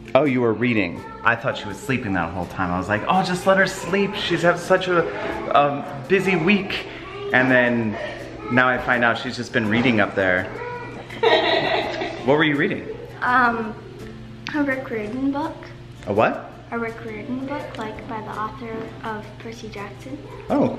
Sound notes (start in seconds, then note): 10.9 laughing